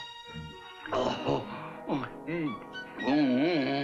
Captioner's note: groans with pleasure; groans